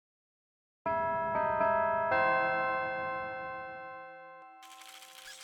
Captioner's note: bells chime